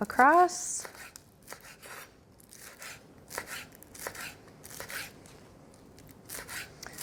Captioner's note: knife scrapes